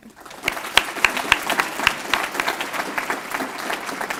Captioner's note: applause